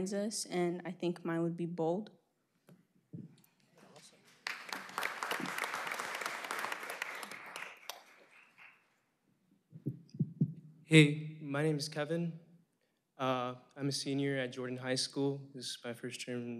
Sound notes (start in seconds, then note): 6.1 applause